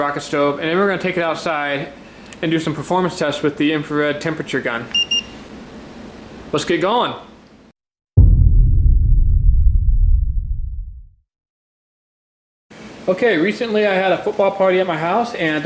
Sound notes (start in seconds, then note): 5.0 thermometer beeps; 8.2 dramatic music